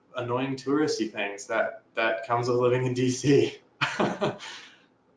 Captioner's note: laughs